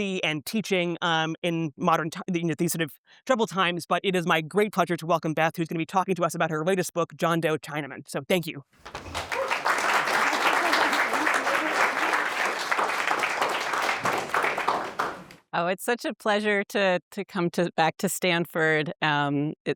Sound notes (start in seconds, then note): 8.8 audience applauds